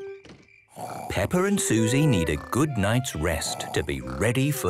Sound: Peppa and Suzy snoring

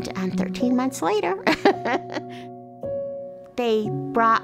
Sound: laughs

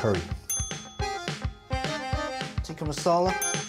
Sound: buzzer dings

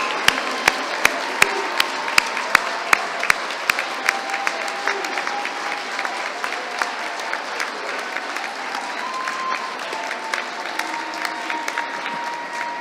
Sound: applause

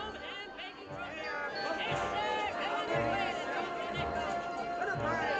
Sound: barker Shouting

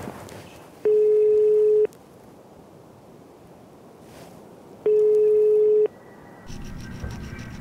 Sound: phone rings

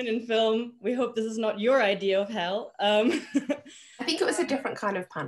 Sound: she chuckles

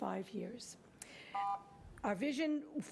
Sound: buzzing

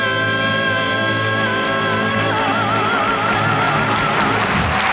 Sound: audience applauds

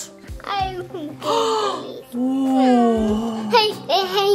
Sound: mom gasps

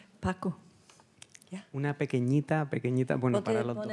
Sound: speaking Spanish

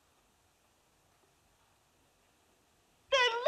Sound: none

